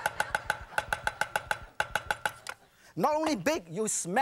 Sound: audience laughing; sharp tapping

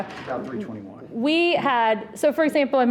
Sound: person speaking off mic

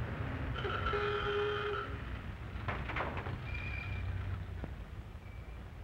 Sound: car horn honks

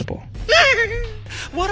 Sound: laughs

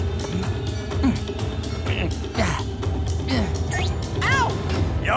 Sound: grunting

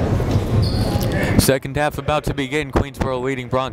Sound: gymnasium bustles

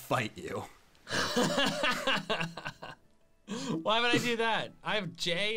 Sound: laughs

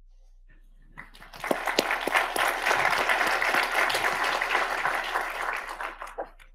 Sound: audience clapping

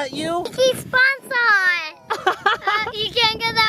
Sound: laughing

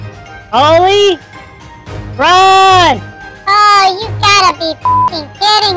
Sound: nervously

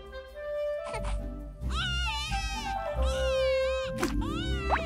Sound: Harris cries

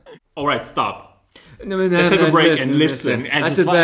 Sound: mumbles

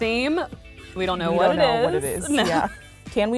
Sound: laugh

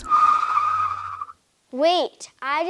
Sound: tires Screeching

